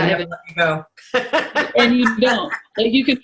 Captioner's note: laughs